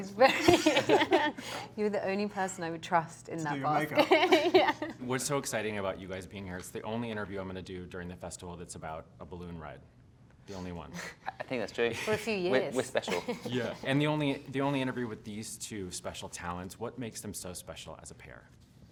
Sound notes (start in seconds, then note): 0.2 both laughing; 3.9 both laughing; 13.0 laughs